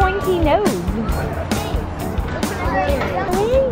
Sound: kids chattering

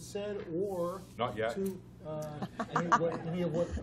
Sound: laughter

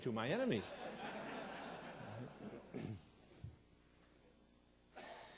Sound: audience laughing

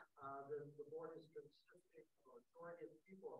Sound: speaking faintly; speaking faintly

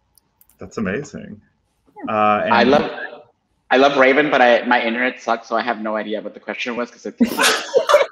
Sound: laughter

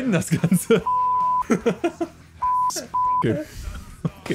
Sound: laughs

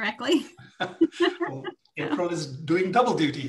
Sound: laughing

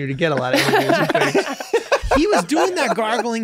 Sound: all laughing

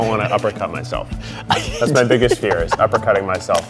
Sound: laughing

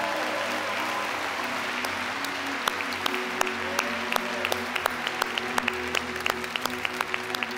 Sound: applause

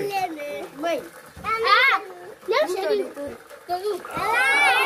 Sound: kids shouting

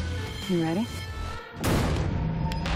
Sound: gunshot

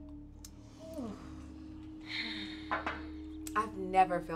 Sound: Ayanna and Nia sighing

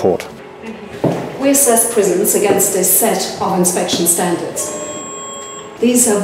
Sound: beep

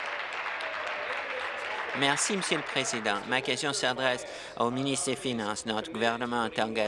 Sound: applause

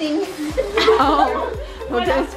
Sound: laughter

